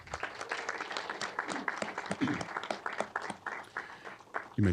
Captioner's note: applause